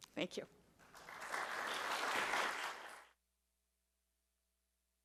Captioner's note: audience clapping